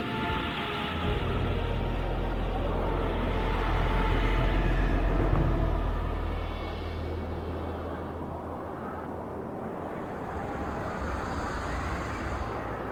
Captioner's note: creepy music; wind